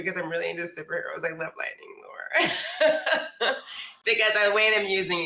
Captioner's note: laughs